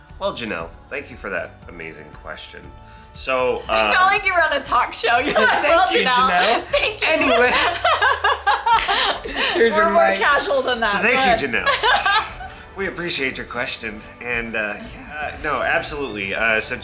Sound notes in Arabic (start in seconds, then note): 7.9 يضحك